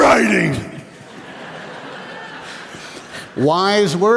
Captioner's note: laughter